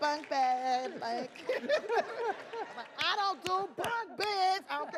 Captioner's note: audience laughs; laughs